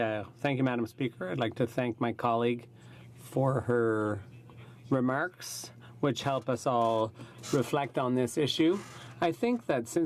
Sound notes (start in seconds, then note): 2.9 speaking in French